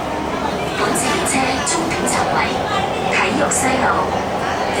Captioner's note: Cantonese